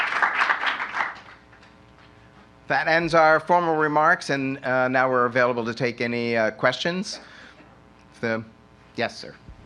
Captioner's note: applause